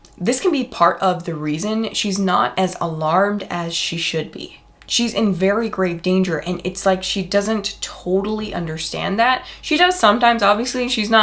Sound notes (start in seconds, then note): none